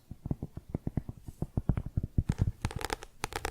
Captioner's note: tapping on cork; tapping on book